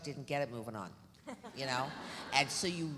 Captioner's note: audience laughs